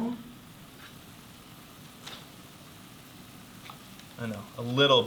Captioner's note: sauce sizzling